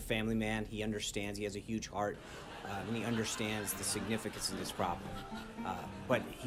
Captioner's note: raucous laugh track